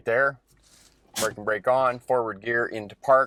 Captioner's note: parking brake creaks